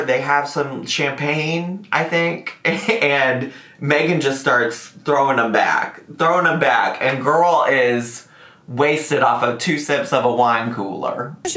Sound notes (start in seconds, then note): none